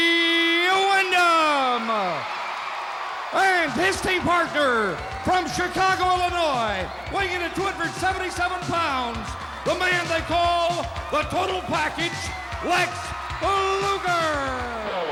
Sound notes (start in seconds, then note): 2.2 crowd cheering